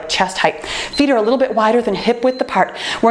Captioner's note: timer beeps